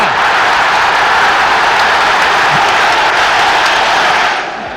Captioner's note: crowd roaring